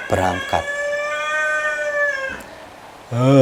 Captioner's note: the sound of a rooster crowing